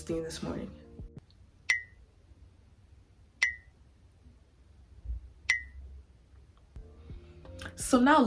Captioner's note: blink blink blink